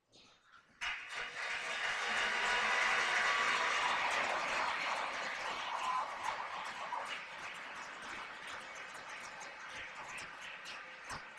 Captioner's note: applause